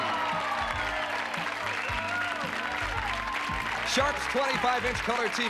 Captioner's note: applause